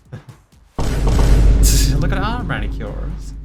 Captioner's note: Multiple Vine Booms SFX